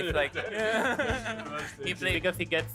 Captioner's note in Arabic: يضحك